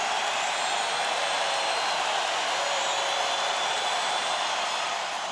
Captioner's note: crowd cheering